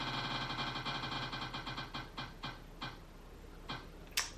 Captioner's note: wheel rattling